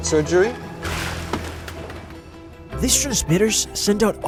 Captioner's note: water splashing